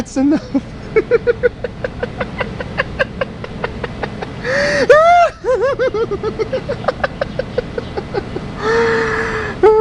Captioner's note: laughing Uncontrollably